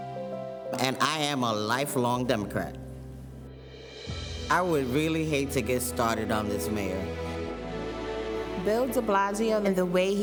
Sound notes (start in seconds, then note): none